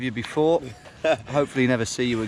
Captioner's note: laughing